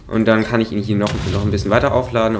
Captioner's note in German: Explosion